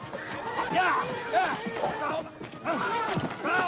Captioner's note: speaks foreign language